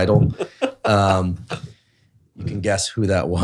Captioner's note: laughing